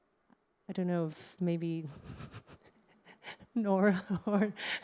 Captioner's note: chuckles